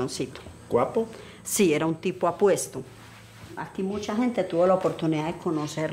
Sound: speaking in foreign language

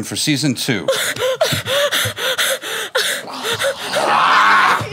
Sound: gasping

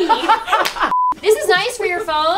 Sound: women laugh; beeping sound

